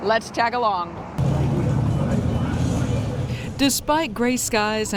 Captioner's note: motor rumbling